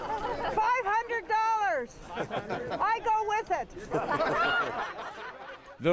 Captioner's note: laughter